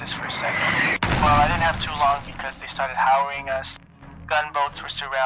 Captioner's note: artillery hit; artillery incoming